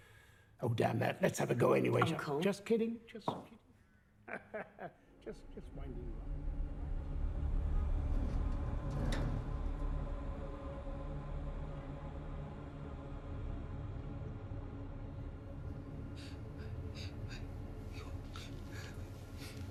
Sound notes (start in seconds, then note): 4.2 laughing; 7.5 ominous music